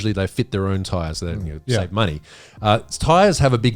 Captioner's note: laughing